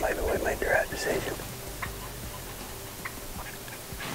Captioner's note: whispering